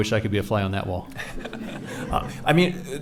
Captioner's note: laughing